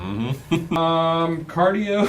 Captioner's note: laughing